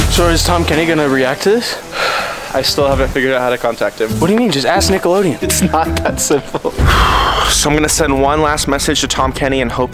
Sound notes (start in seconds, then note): 1.9 sighs; 5.5 laughs; 6.5 sighs